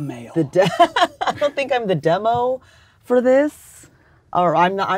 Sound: laughs

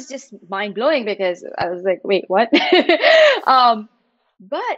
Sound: chuckling

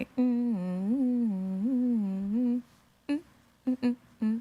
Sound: humming

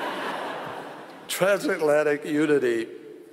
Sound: laughter

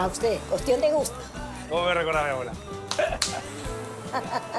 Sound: laughs

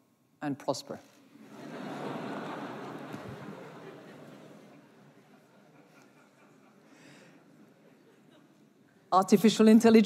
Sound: laughter

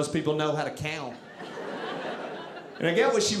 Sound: audience laughing

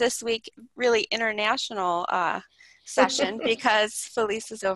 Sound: laughs

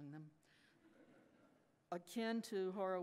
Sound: audience laughs

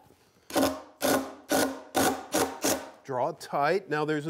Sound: drill whirring

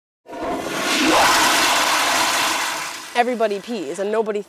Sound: toilet flushing

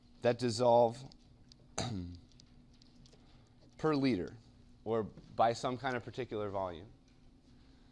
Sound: cough

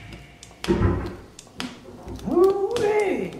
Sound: dissonant hum; door shutting

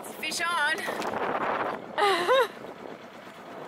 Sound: wind blowing; laughing

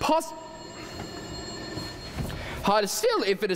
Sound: phone ringing

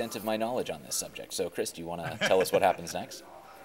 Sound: laughing

